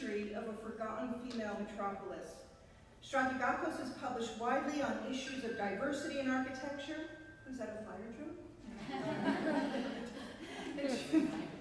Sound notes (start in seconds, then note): 5.0 dinging noises; 8.7 laughter